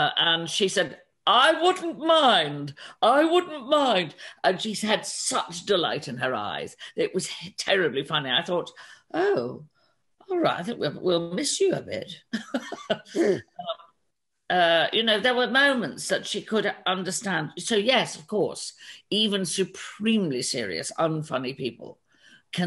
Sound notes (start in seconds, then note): 12.4 laughs